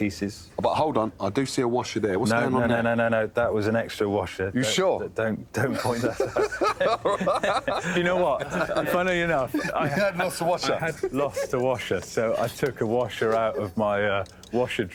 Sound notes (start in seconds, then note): 5.6 laughter; 10.6 laughs